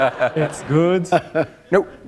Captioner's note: laughter